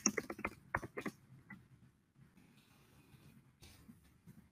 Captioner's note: computer keys clicking